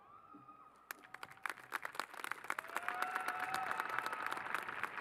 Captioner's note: applause